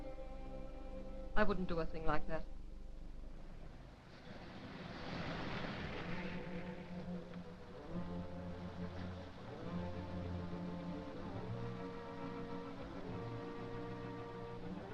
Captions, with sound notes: I wouldn't do a thing like that. (traffic humming) (suspenseful music)